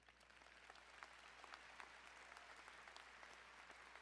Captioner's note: crowd applauding